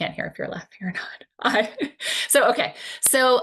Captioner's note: laughs